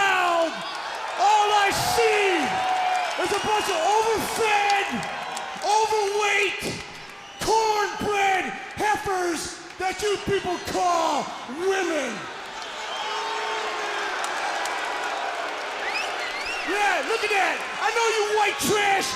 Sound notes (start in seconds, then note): 6.2 crowd cheering